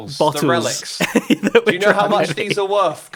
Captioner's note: laughs